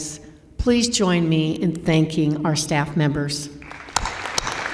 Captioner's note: applause